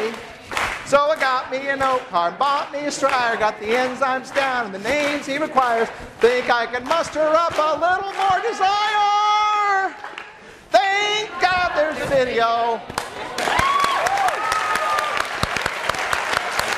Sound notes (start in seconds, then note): 12.9 class cheering; 14.4 class applauding